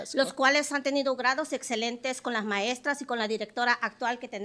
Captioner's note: speaking Spanish